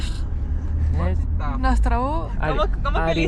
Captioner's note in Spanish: Habla polaco